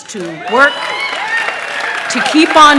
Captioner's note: cheering